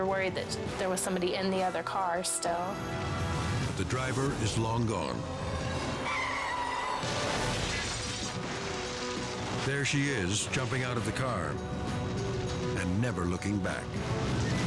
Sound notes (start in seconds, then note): 5.9 tires screeching; 7.0 cars crashing